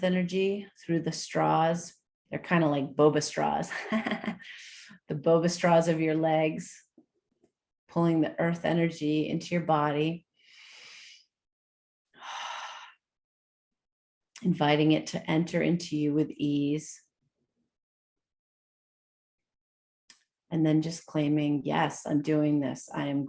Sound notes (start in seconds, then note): 3.8 chuckles; 10.3 breathes